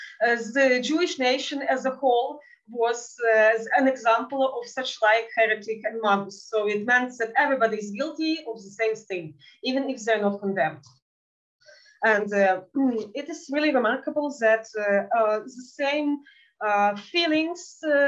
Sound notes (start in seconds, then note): 6.0 speaking in Yiddish